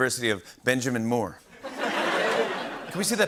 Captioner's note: laughter